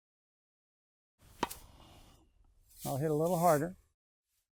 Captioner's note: racquet hitting ball